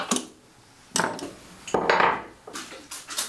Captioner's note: rattling